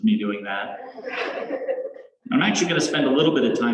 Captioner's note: laughter